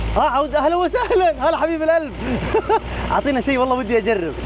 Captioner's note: laughs